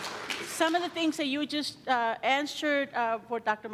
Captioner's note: applause